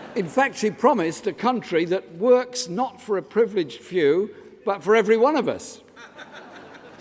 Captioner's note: laughter